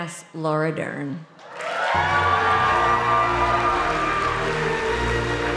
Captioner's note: audience cheering